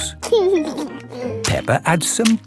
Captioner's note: laughing